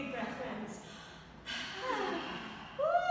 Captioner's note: all exhaling